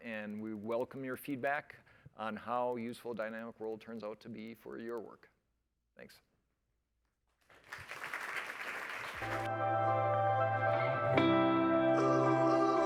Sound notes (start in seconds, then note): 7.4 applause